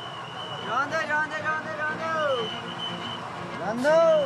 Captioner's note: foreign language spoken